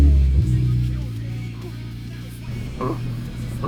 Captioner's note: laughing; grunting